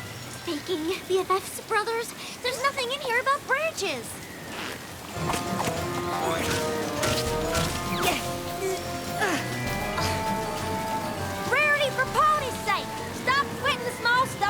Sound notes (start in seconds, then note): 6.3 boing! boing!; 8.1 grunting